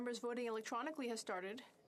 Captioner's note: speaking French